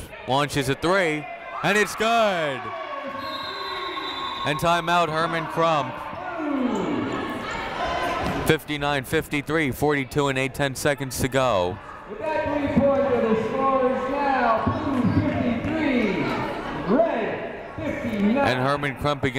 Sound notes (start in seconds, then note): 3.1 whistle blows